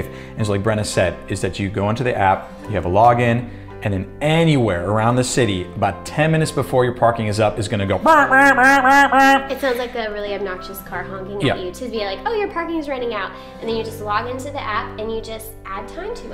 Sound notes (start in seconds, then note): 8.1 makes alarm noises